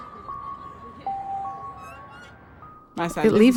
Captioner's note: children laughing